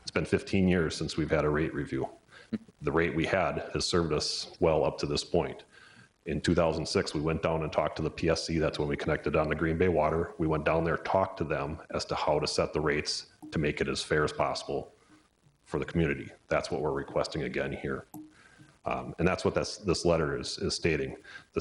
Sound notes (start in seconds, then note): none